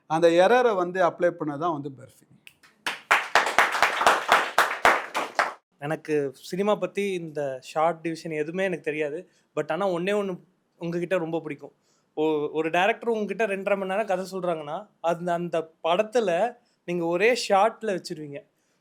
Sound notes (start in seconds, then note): 2.6 audience claps